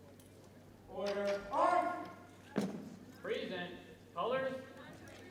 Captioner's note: boots thump